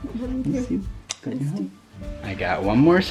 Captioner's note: smooches